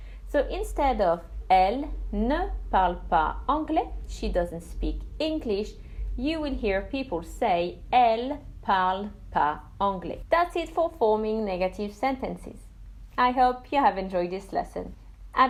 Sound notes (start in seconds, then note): 7.5 speaks French